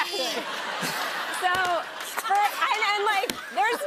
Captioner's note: laughter